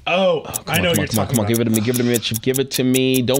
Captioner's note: clock ticking